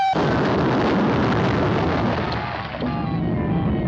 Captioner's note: explosion booms